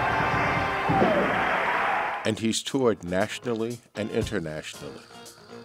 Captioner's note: crowd cheering